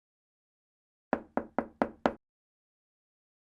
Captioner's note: knocking